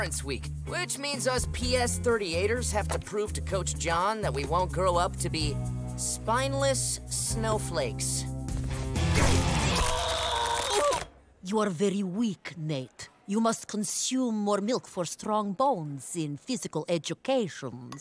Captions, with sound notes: which means us P.S. 38ers have to prove to Coach John that we won't grow up to be "spineless snowflakes". [groaning] You are very weak, Nate. You must consume more milk for strong bones in physical education.